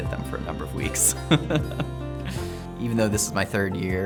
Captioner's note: laughing